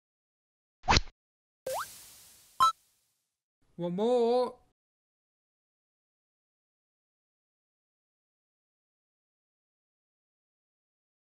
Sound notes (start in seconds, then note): 0.9 rod sound; 1.6 tuna collecting sound